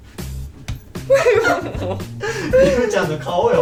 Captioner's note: laughs